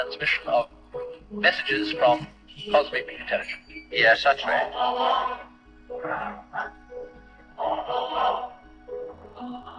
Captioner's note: old radio broadcast calling to aliens